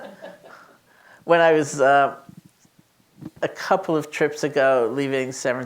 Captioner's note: laughs